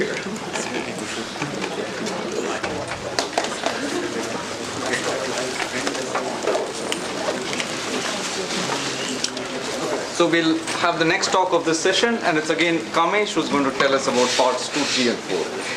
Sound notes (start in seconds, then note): 1.1 indistinct conversation